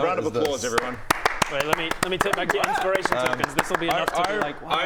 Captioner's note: stunned applause